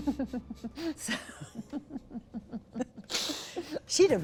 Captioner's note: laughter